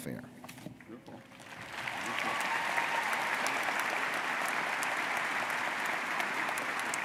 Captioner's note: audience cheering and applauding